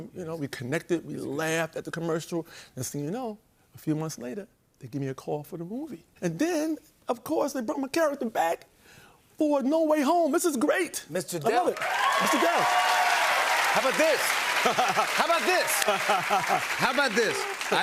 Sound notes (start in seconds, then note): 11.5 cheering and applause; 13.8 laughs